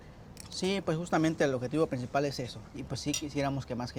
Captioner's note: speaking Spanish